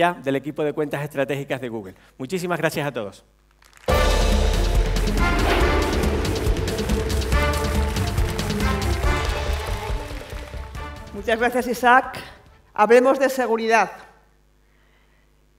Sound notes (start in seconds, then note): 3.5 applause; 12.8 speaking spanish